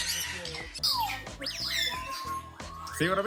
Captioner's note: birds chirping